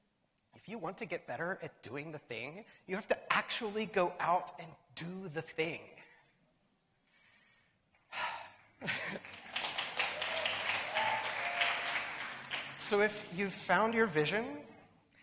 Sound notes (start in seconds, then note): 8.0 big sigh; 8.8 laughs; 8.8 applause